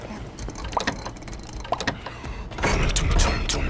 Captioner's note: lock clicks